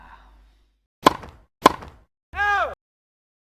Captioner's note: tennis ball hit